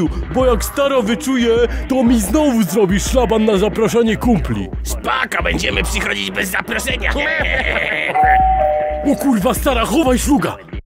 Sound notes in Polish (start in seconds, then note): 6.8 śmiech; 8.1 dzwonek do drzwi